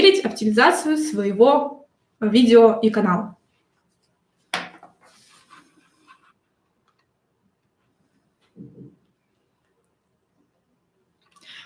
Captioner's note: тишина